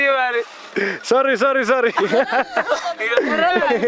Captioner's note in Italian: Inglese